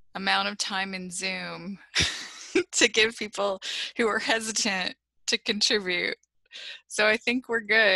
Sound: laughter

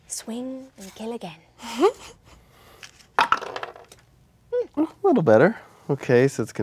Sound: dice clatter

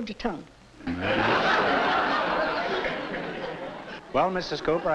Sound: laughter

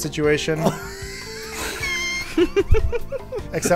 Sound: laughter

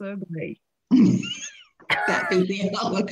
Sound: laughing

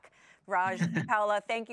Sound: laughing

